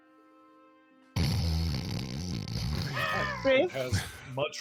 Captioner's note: snoring